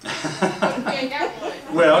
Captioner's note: laugh